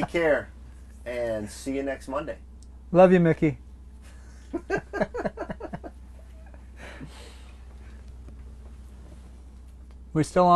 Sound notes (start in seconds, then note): 4.0 laughing